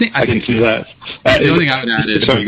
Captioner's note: haha